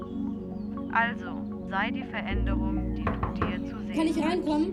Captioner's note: aggressive knocking